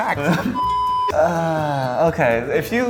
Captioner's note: nervously laughing; beeping